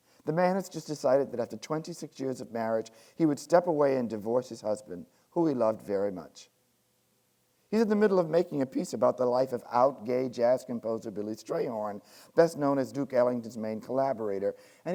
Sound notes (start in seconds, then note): none